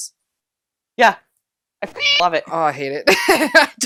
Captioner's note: meow